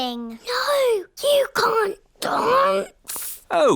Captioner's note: whispers